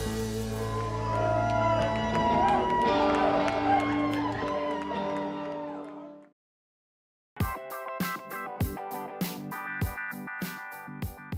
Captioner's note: cheering and applause